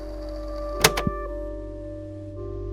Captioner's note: click